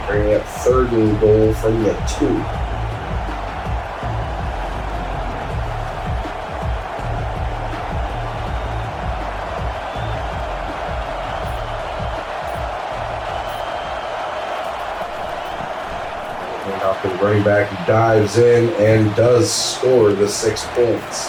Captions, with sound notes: Bringing up third and goal from the two. [Crowd Noises] And after the bring back dives in and does score the six points.